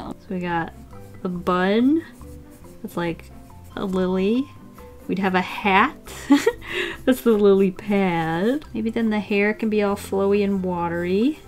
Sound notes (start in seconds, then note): 6.1 laughs